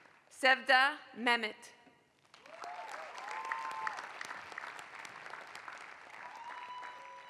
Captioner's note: applause